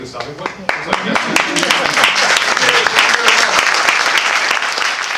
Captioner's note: applause